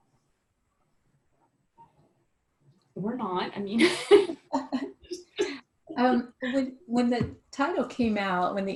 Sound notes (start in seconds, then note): 3.8 laughs